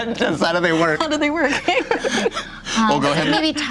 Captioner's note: laughing